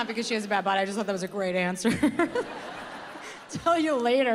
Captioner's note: laughs